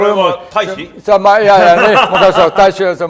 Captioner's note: laughing